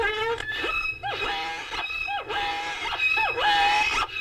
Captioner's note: birds squawking